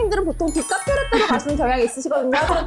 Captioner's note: smooth-talking sound effect